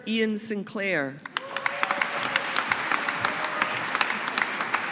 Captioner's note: audience applauding